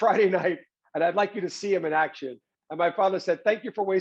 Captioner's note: chuckles